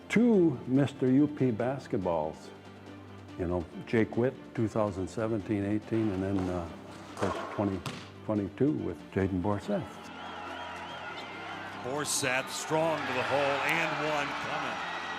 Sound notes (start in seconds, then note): 10.0 fans cheering